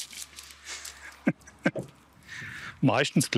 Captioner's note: mischievous laughter